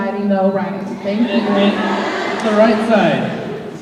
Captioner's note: audience laughing